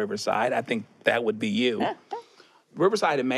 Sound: she chuckles

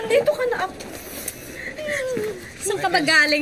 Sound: cries

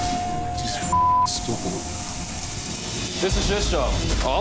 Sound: beeping

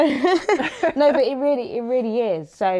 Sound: both chuckle

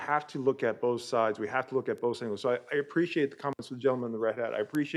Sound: audio cutting in and out

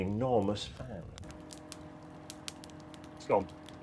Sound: beacon whirs

